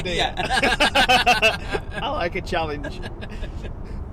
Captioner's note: ^laughing